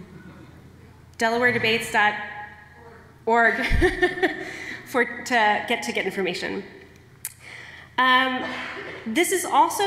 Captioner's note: laughter